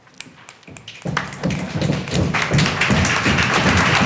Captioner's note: applause